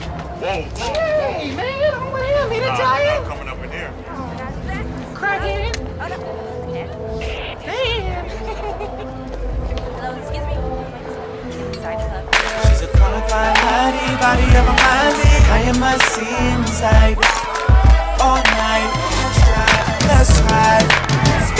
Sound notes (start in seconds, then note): 7.2 static; 7.2 cackles